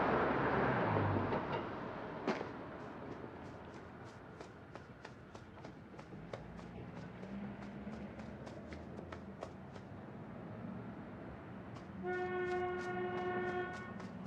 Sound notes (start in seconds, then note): none